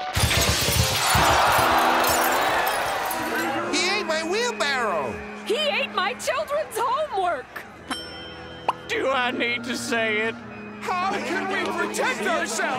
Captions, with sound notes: [crowd shouting] He ate my wheelbarrow! He ate my children's homework! Do I need to say it? How can we protect ourselves?!